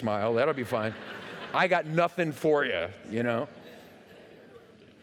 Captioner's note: laughter